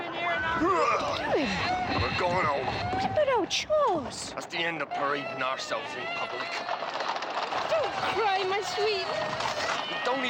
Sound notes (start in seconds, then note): 0.3 farmer yelling; 7.1 hooves clomping